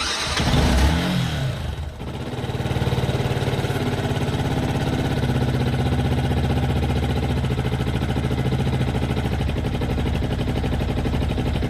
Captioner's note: engine starting. engine running